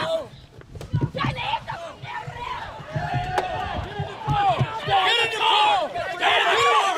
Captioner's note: speaking foreign language